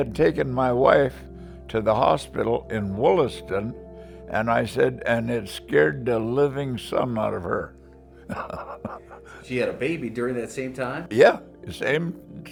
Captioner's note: laughs